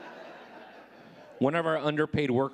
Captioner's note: audience laughing